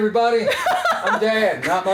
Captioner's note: laughs